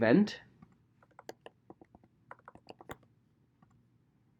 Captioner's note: keyboard clicking